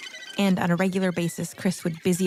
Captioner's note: bird calls